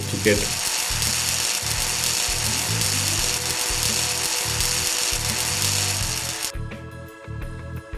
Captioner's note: welding noise